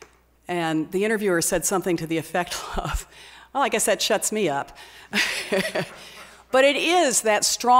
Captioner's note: laughs